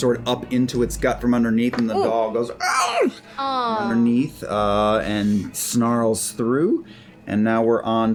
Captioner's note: yelp of pain